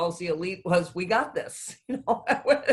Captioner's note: laughs